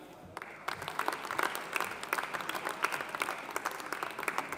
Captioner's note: audience applauding